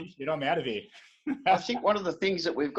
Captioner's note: laughing